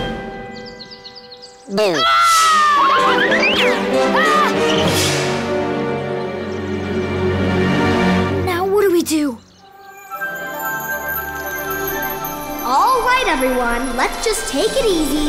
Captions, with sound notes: - Boo. - [screams] [screaming] Now what do we do? All right, everyone, let's just take it easy.